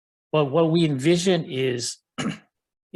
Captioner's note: clears throat